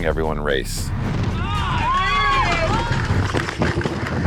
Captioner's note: air whooshing